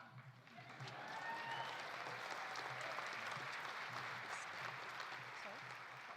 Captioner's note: audience applauding; audience cheering